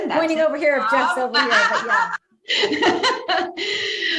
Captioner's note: laughs